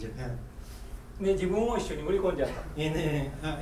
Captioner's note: speaking in foreign language